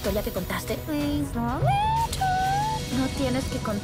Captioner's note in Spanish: en idioma PuppyCat